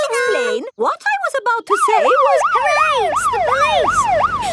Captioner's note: siren wailing